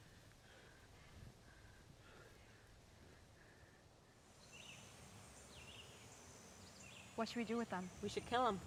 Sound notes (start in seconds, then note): 4.2 birds tweet